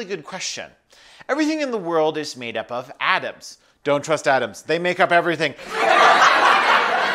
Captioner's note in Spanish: risas